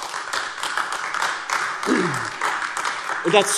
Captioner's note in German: Beifall AfD